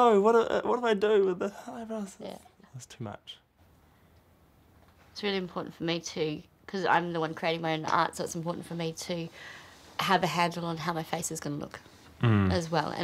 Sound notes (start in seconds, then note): none